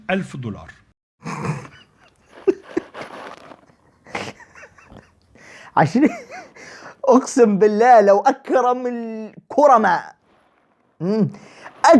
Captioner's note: laughter